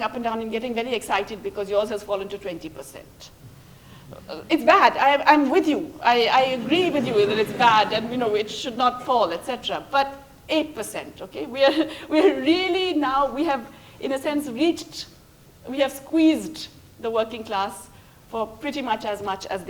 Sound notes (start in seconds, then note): 6.3 laughter